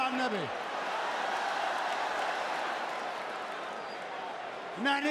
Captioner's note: applause